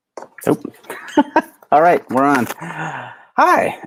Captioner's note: laughs